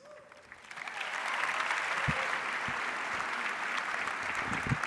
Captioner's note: audience applauds